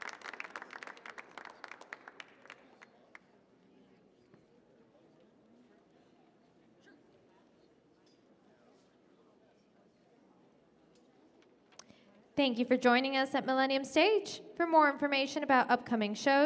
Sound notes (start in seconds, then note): 1.9 audience applauds